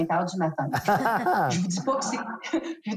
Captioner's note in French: rires